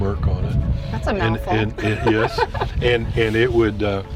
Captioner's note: laughs